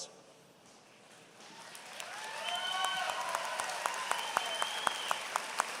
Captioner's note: applause